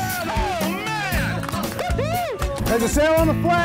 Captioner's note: laughing